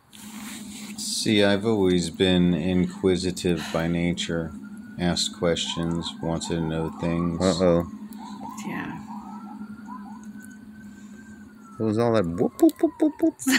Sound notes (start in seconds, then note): 7.0 police sirens